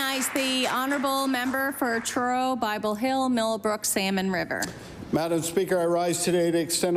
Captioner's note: applause